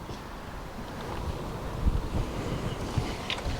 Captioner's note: wind howling